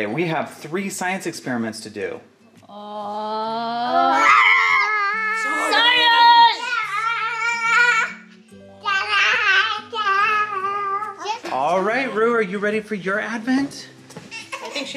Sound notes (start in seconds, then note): 4.0 children cheering; 7.1 babbling